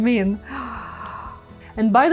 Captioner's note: gasps